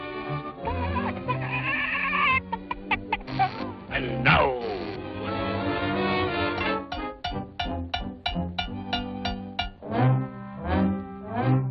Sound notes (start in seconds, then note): 0.6 sad clucking; 6.9 rapid heartbeat